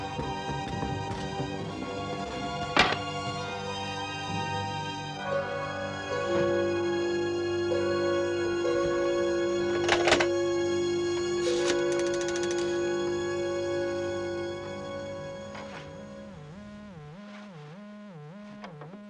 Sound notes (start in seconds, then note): 14.2 line buzzing